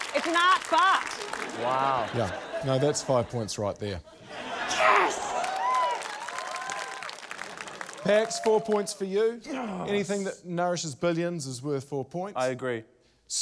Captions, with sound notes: - It's an Art fart. - Wow. - Yeah. No, that's five points right there. (LAUGHTER) - Yes! (CHEERING, APPLAUSE) - Pax, four points for you. - Yes! - Anything that nourishes billions is worth four points. - I agree.